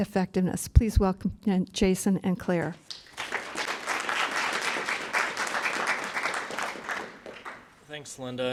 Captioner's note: applause